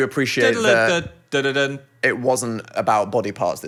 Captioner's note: Phil imitates music